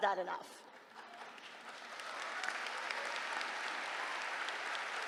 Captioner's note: laughter, applause